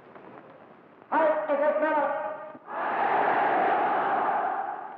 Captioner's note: German spoken audio